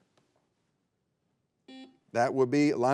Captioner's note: buzzer beeps